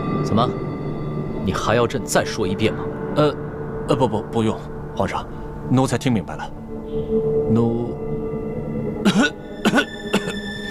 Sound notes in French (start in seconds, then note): 9.0 Tousse